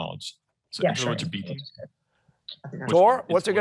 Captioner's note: overlapping chatter